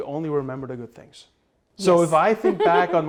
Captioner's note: laughter